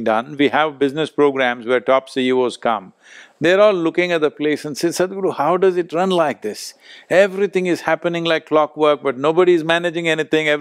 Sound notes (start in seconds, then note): none